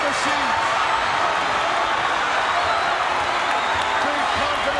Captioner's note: audience cheering